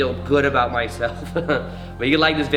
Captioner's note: chuckles